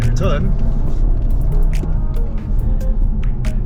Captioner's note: engine revs